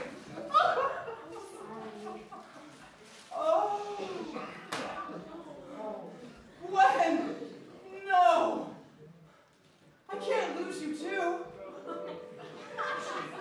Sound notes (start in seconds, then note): 1.2 Peter crying